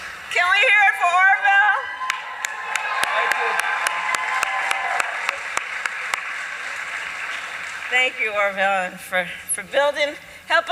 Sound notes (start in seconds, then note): 1.9 applause